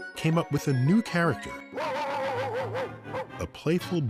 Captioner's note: barking